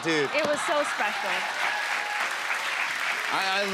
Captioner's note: applause